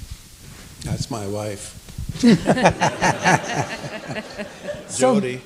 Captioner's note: people laughing